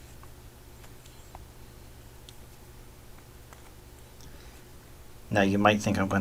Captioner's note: writing Sounds